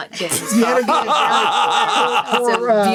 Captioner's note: laughing